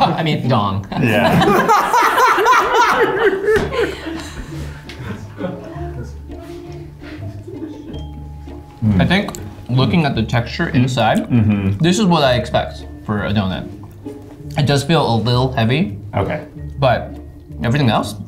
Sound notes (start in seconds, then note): 1.0 laughing; 4.4 whimsical music